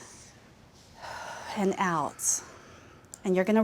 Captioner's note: exhales; inhales